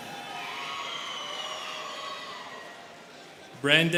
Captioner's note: students cheering